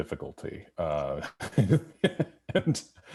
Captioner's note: laughing